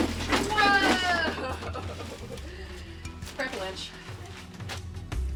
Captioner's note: laughs